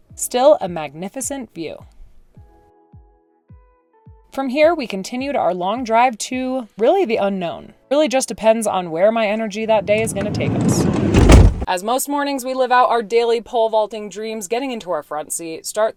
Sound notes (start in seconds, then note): 9.4 door clattering